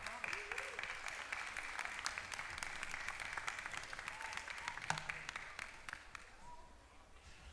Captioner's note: applause